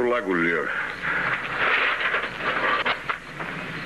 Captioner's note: rattle